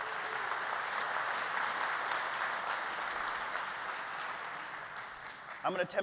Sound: applause

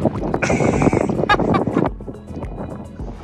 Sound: laughing

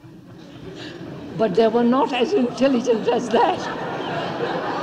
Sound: laughs; laughter

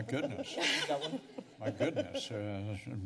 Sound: laughter

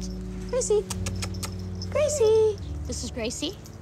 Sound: kisses

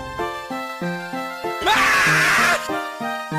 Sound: screams In A Loud Tone

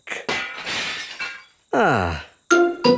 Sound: glass shatters

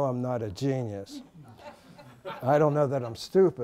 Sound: laughter

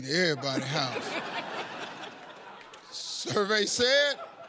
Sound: laughter

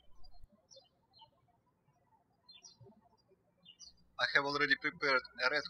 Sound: birds chirping

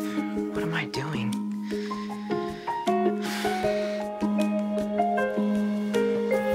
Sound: sighs

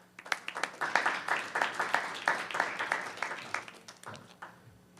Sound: applause

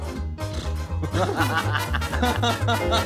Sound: both laugh

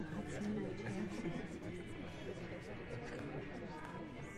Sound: group chattering

